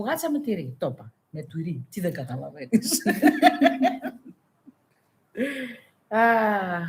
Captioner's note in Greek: γέλια